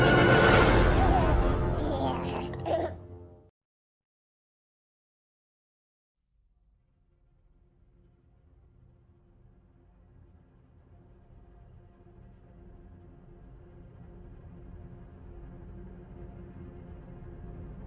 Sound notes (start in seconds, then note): 1.0 baby babbling